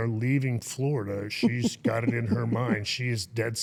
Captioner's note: interviewer chuckling